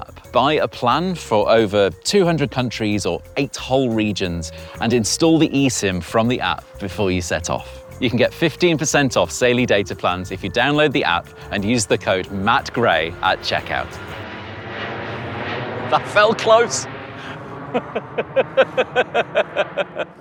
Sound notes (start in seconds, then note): 14.2 jet engine flyby; 18.2 laughs profusely